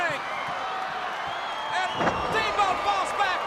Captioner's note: crowd cheering